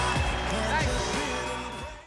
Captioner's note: applause